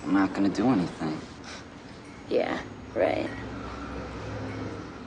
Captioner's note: scoffs